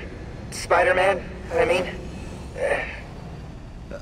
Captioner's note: exhale